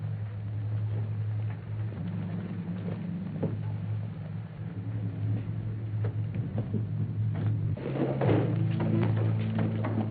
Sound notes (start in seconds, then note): 2.1 menacing music; 7.7 rubbing chair on the floor